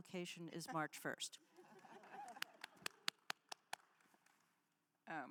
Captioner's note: attendees laughs